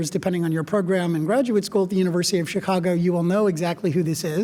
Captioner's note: none